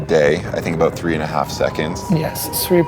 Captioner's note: spectators cheering